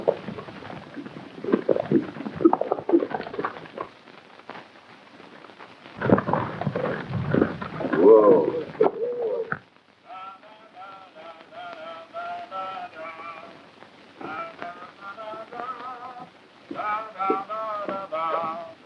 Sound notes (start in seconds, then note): 10.6 humming